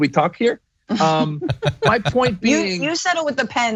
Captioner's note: laugh